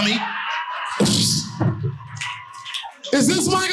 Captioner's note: audience cheering